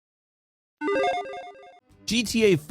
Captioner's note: logo beeps